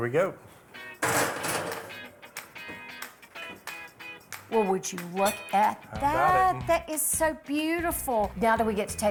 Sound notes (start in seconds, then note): 1.0 pan bangs; 3.0 gentle rock music